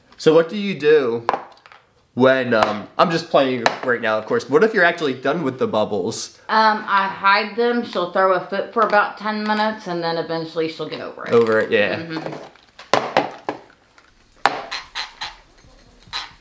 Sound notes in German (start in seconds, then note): 14.4 Becher klopft auf den Tisch